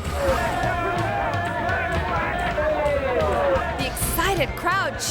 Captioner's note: people chattering